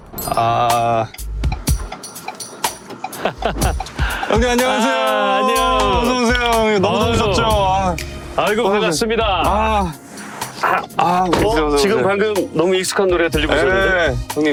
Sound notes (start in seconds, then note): 3.1 sound of a familiar laughter